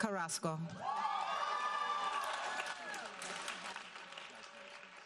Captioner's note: audience applauding